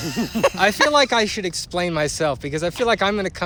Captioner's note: laughter